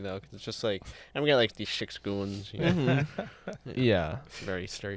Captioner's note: laughter